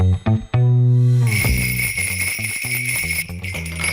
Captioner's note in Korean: 방울 딸랑딸랑